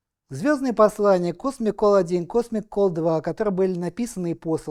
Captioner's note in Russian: none